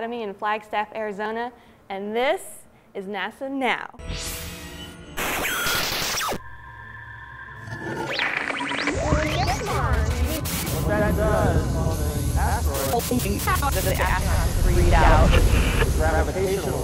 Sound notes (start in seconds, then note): 4.0 sound Effects